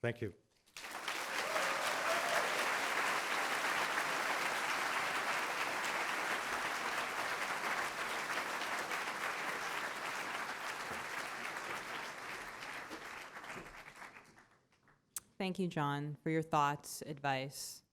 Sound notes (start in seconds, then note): 0.6 applause